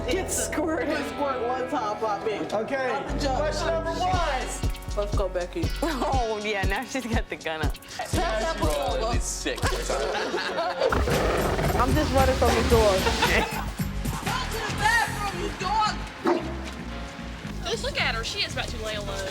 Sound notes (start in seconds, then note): 9.4 laughing and chatter; 12.7 laughing